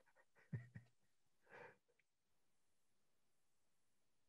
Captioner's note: chuckles